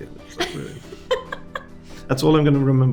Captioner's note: host laughing